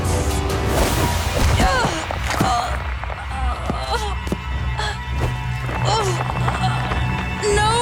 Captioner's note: groaning